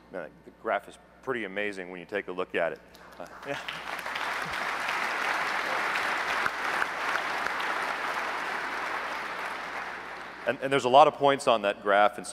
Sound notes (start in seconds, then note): 3.0 applause